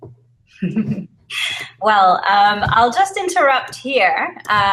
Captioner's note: laugh